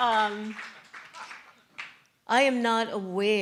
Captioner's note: laughter & Applause